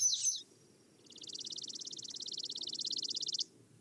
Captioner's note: bird singing; bird chirping